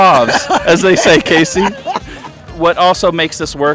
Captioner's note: laughing